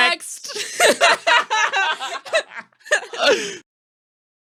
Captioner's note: laughing